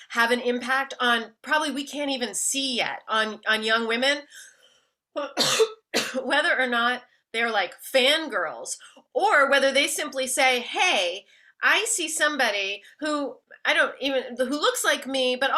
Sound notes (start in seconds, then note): 5.2 coughs